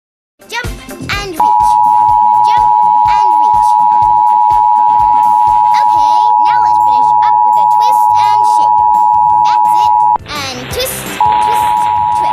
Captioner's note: alert Tones Playing; beep Noise Playing